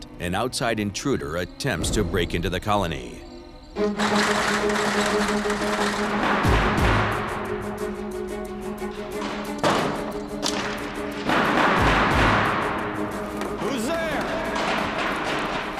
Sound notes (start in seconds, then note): 3.8 rattling; 6.4 banging